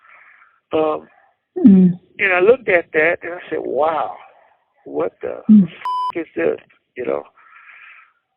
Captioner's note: beep